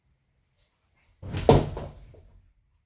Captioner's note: thud